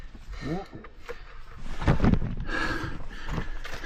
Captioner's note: breathes